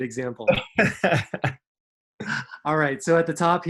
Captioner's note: laughing